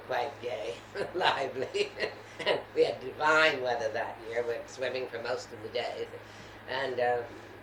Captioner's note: laughs